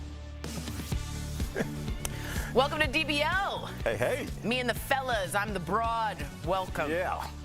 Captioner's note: laughter